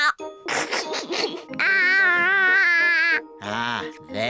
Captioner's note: giggles